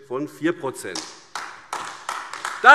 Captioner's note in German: Beifall AfD